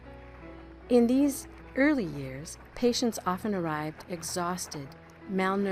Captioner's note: horses trotting